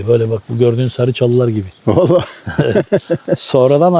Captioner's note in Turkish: kahkaha